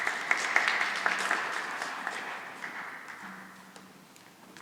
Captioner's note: applause